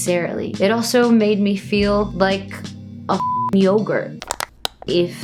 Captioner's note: beep; crackling sound